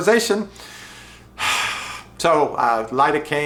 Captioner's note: sighs